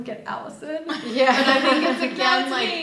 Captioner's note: group laughing